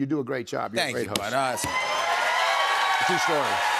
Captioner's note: cheers and applause